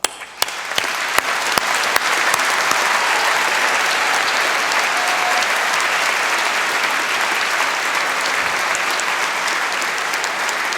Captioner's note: applause